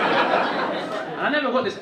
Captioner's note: audience laughing